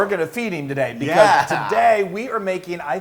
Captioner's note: laugh